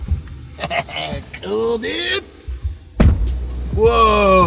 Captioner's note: chuckles; car door slams